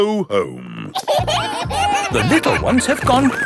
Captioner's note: kids giggling